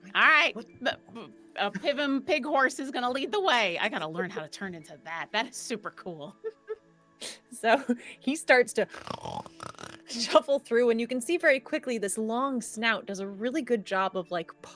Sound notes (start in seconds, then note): 8.8 Pivam snorts